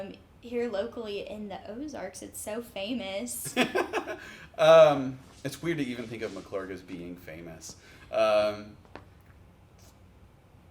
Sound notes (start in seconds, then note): 3.5 laughs